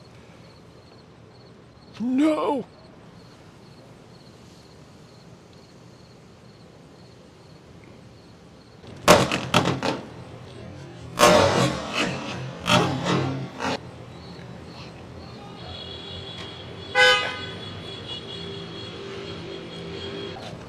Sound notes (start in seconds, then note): 8.9 cracking; 15.5 horns honking